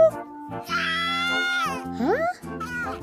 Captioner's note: baby cries